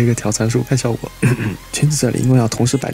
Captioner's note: cough cough